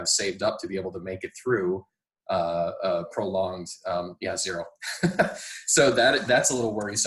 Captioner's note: laughing